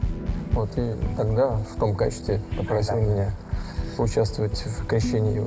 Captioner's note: speaking foreign language